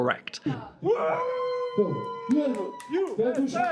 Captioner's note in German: Jubel